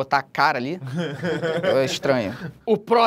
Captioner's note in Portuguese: risadas